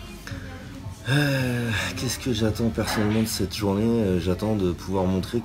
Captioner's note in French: Soupir